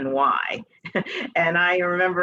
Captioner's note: chuckles